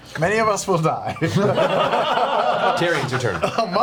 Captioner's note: all laugh